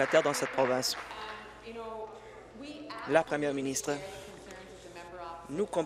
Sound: applause

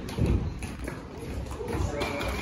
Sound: audience claps

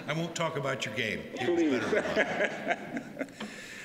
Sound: laughter

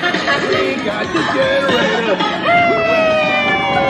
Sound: sing-songy

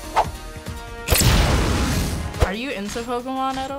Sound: adventure music; flames burst

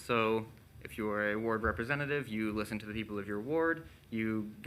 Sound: none

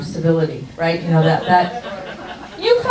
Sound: audience laughs

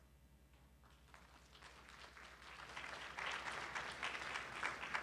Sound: audience applauds

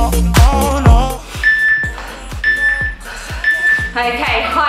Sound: workout timer beeping

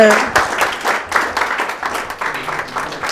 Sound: audience applauding

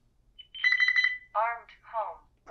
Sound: beeping

